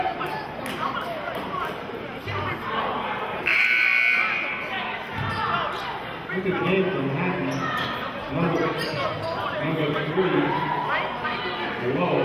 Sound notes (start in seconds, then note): 3.4 buzzer sounding